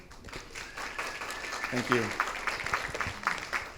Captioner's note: audience applauds